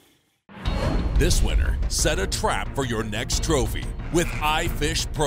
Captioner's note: voiceover